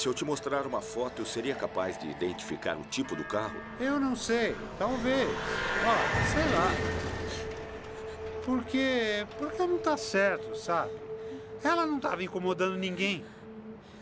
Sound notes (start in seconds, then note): 5.4 intensifying music; 6.2 truck whooshing past